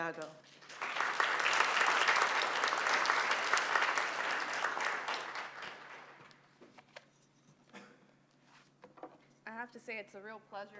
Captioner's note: applause